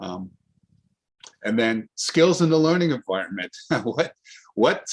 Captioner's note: giggles